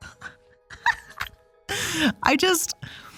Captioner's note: laughs